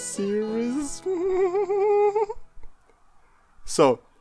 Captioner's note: demented laughter